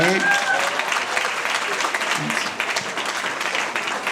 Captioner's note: audience applauding